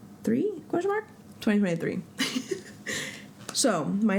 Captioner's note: laugh